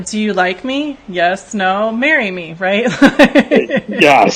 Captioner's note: laughs